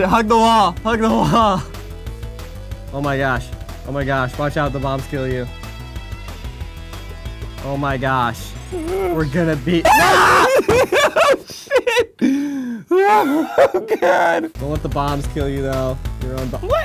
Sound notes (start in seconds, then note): 9.8 shrieking